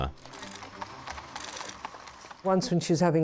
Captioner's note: horses clip-clopping